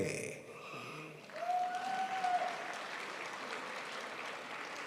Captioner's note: crowd applauds